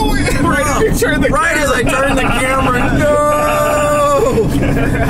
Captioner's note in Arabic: يضحك